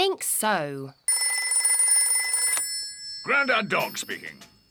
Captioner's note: rings